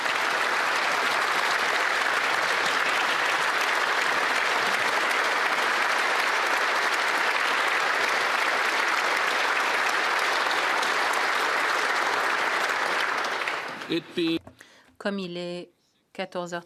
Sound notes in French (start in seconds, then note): 5.2 applaudissements